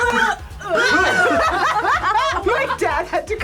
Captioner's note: group laughs